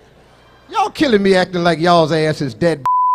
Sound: beep

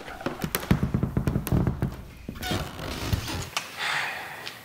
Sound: floor creaks; sighs

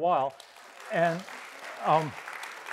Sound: audience applauds

